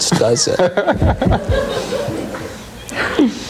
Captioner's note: laughing